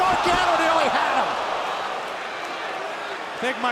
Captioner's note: crowd cheering